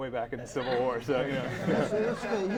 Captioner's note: laughter